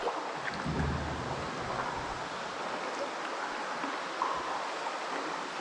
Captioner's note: rushing water